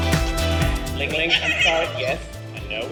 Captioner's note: laughing